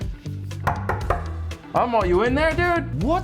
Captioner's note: knocking